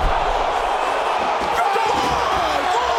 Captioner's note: crowd roaring